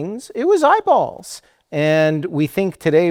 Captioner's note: none